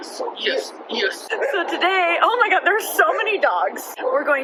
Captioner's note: dogs barking